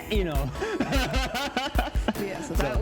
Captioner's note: laughs